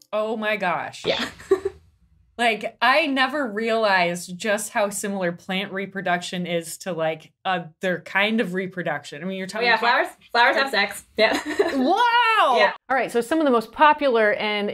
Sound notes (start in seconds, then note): 1.1 chuckles; 11.5 laughs